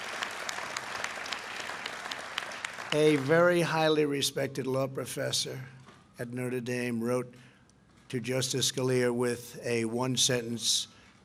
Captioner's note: applause